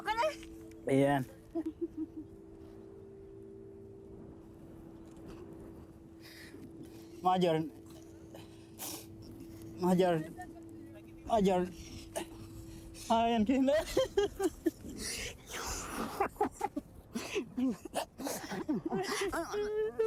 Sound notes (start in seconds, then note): 1.5 whimpers; 17.1 cries; 17.8 gasping